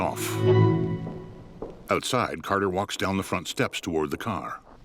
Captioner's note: heavy footfalls